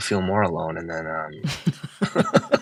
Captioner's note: laughter